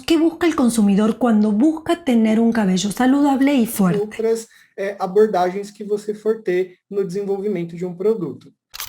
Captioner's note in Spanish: Portugues